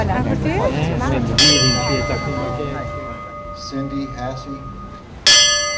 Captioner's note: bell rings as names of people are read